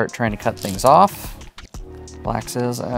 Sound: stones rattling

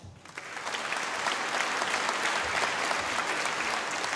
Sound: audience applauding

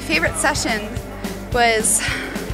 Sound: sighs

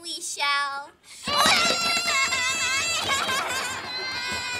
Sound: sobbing

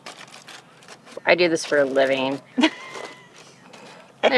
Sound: laugh

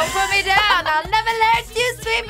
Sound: both laugh

